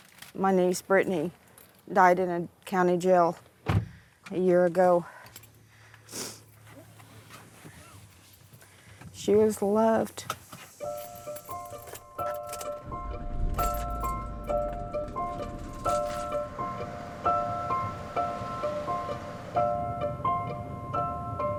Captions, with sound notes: - My niece, Brittany, died in a county jail a year ago. (sniffling) She was loved. (solemn music)